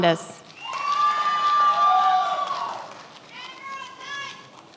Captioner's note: many applauding